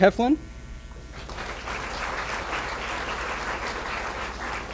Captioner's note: applause